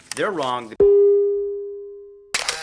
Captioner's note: camera Shutters